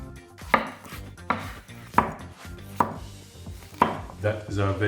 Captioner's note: knife chopping